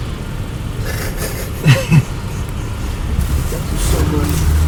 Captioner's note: laughter